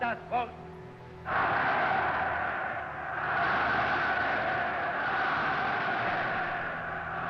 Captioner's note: crowd shouting